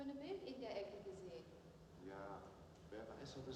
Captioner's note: conversation in german